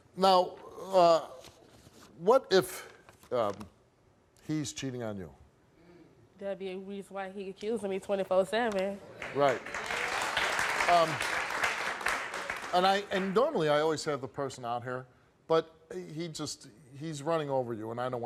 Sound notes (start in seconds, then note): 9.1 audience claps